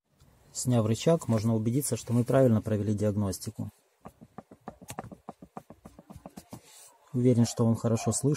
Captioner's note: a knock is heard